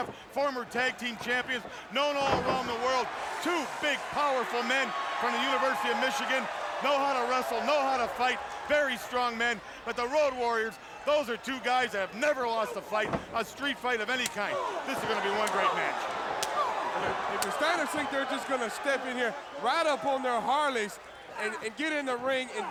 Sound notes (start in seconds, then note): 16.4 Hawk slapping Scott